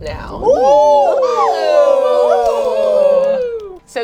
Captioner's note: all cheer